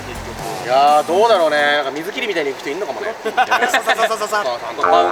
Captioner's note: skimming noises